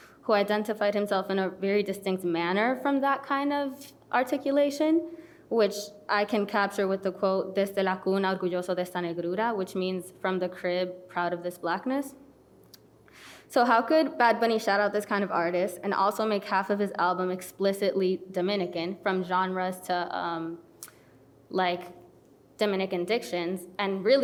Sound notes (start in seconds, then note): 7.7 speaking foreign language